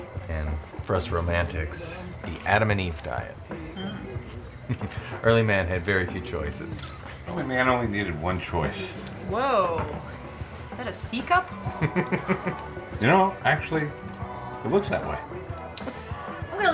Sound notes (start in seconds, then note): 11.6 chuckles